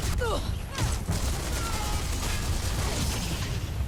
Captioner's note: gunshots firing; people grunting